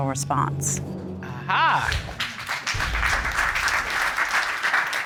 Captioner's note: audience applauding